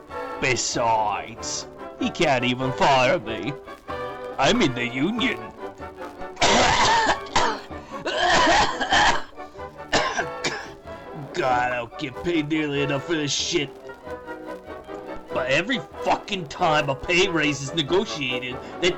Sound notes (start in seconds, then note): 6.3 coughing